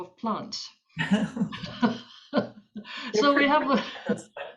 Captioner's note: both laughing